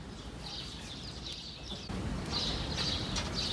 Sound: birds chirping

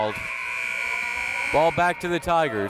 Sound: buzzer

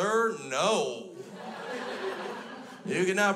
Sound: crowd laughs

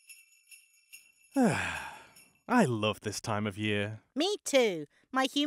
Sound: sighs contentedly

